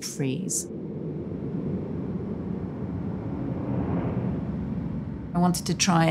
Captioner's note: airplane engine whooshing smoothly